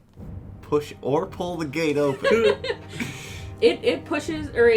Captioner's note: chuckle